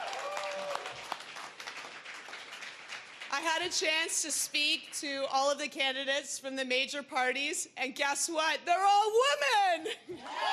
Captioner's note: cheering